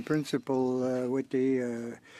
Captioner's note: speaking French